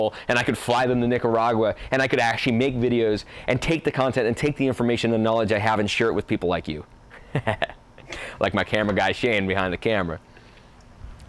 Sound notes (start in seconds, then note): 7.2 laughs